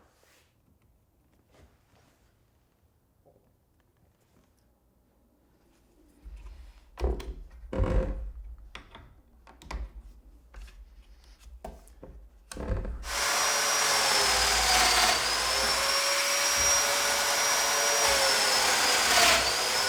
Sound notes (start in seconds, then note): 13.0 whirring